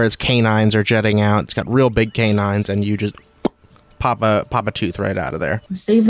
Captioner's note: pop